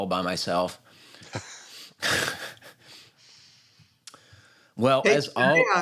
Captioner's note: laughter